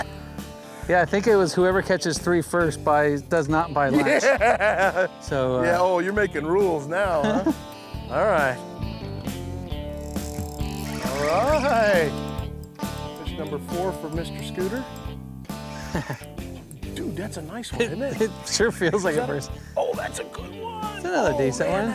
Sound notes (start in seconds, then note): 3.9 laughs